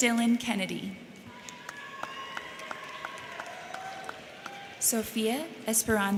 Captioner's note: crowd cheering; crowd clapping